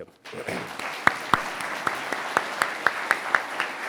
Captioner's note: audience applauds